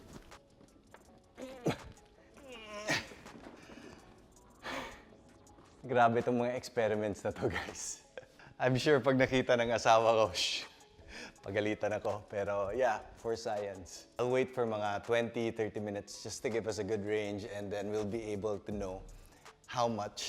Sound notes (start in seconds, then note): 1.4 grunts; 4.6 breathes out